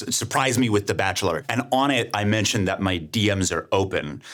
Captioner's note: none